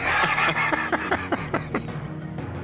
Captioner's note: laughing